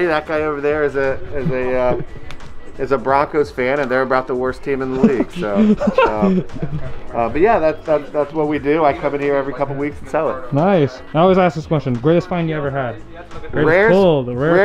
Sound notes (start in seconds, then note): 4.8 laughing